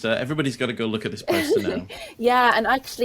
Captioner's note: laughing